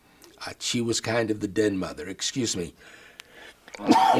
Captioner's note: coughs